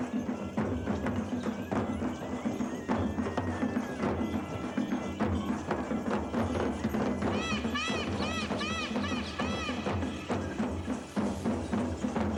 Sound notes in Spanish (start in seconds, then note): 0.1 música con tambores; 7.3 graznidos; 11.2 música con tambores